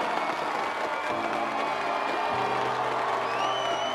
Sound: audience cheering and clapping; audience member whistles

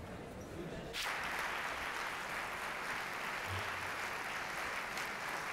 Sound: applause

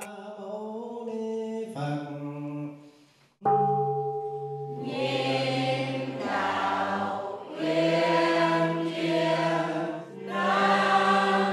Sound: praying and chanting

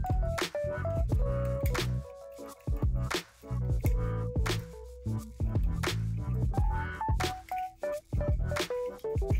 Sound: wire crackles

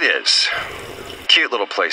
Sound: slurp

